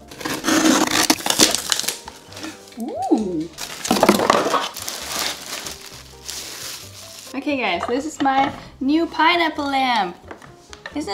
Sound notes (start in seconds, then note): 0.1 cardboard rustling; 0.6 tape snapping; 3.5 plastic crinkling; 3.5 cardboard rumbling; 5.0 plastic crackling